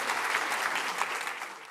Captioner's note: applause